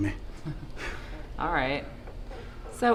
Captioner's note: chuckles